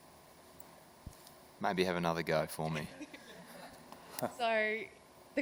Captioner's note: laughter